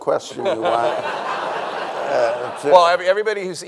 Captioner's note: people laughing